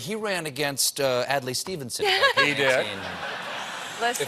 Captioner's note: laughter